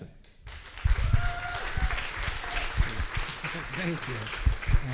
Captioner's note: applause